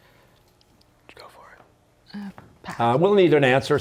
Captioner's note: whispering